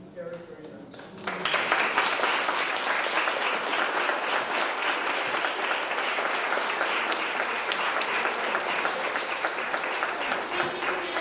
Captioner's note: applause